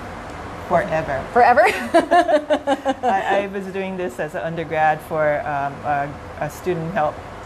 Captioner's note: laughter